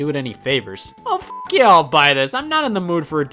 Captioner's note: beep